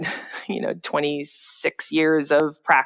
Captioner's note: laughs